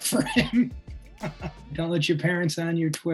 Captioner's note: laughs